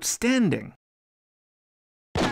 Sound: gunshot

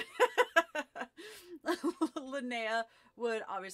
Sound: laughter

